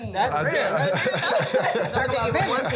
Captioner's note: laughing